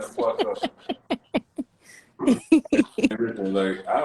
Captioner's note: laughter